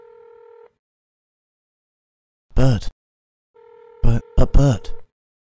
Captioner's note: phone ringing; phone rings